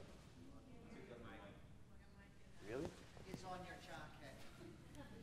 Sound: background Conversation

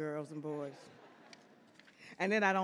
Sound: audience laughs

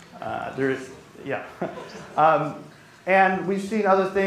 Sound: chuckles

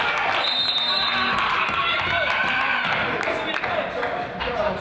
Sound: crowd applauds; whistle blows

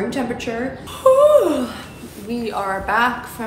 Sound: yawning

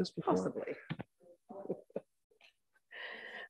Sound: laughs

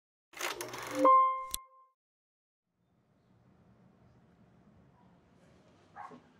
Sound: film rolling; piano key playing; dog barking

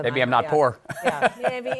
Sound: laughs

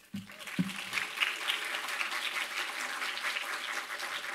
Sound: applause

